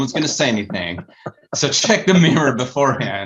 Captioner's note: all laughing